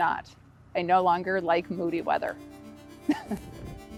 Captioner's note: dramatic music; laughs